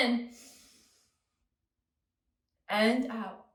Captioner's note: inhales